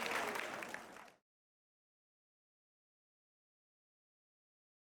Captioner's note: cheering and applause; silence